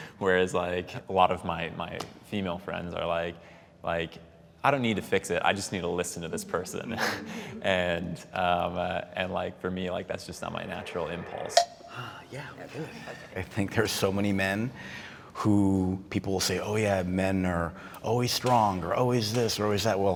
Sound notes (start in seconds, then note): 12.3 panelists indistinctly chattering